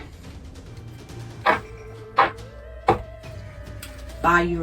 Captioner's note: deck shuffles